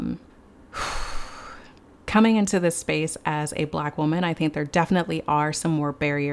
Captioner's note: sighs heavily